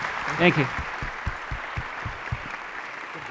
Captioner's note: applause